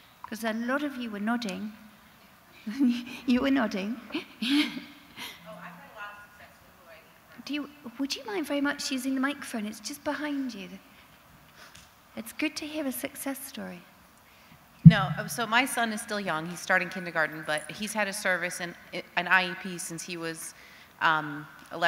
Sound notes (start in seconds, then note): 2.6 chuckles